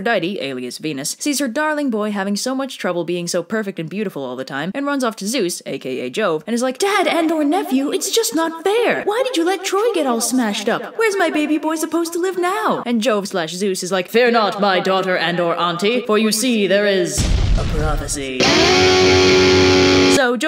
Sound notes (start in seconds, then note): 7.9 high voice; 13.9 deep voice; 18.3 fantastic guitar riff